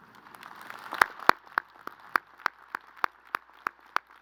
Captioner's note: crowd applauding